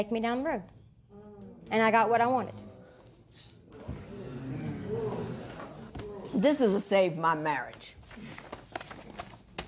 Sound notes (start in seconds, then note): 3.8 spectators murmur